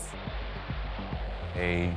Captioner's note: aeroplane whooshing